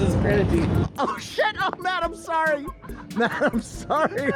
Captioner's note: hysterical laughter